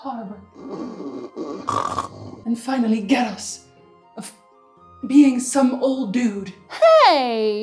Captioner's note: snoring